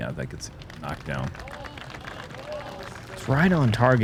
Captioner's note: cheering